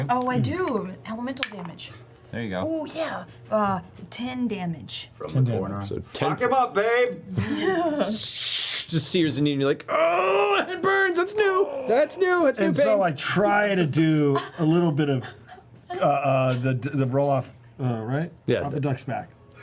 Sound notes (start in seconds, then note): 7.6 sizzle